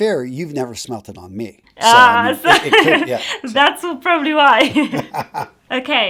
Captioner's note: laughs; laughs